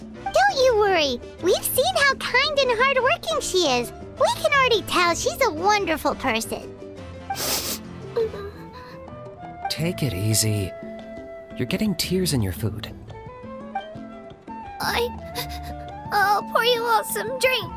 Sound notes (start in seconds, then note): 7.3 sniffle